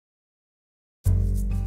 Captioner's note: silence